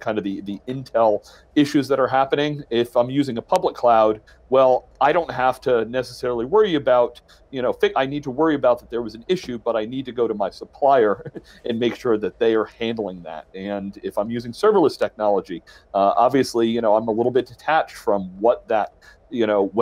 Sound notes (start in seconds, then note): 8.8 chuckles